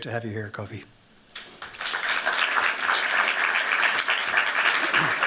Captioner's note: applause